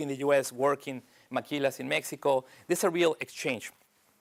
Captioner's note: spanish